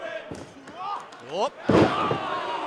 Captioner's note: fans chanting